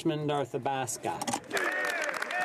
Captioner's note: speaking French